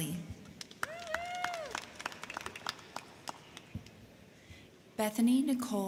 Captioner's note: crowd clapping; crowd cheering